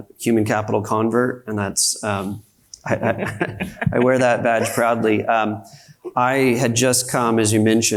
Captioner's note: panelists laughs